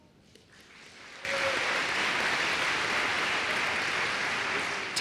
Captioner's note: applause